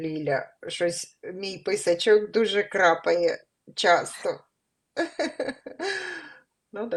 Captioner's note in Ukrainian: сміх